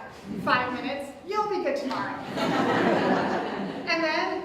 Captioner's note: audience Laughter